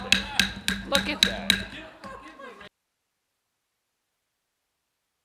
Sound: gavel banging

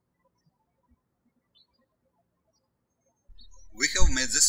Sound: birds chirping

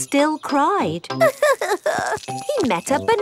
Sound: crying

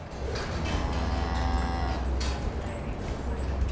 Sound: cows mooing

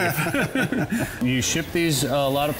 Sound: men laughter

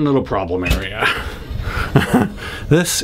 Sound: laughing

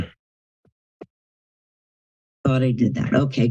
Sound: silence

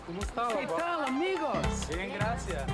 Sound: boys speaking Spanish; LeVar speaking Spanish; boys speaking Spanish

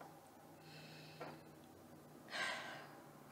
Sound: wife sighs

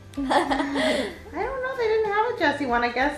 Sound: laughs

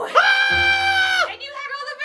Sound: screams

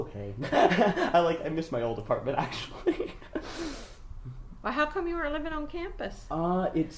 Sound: laughs

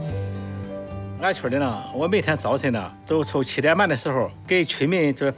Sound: speaking Chinese

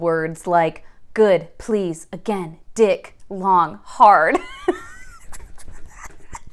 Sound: laughing

